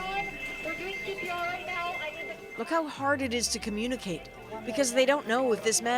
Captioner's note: indistinct chatter